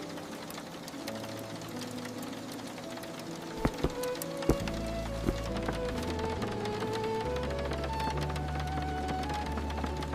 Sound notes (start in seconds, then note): 3.5 a gas burner clicking and catching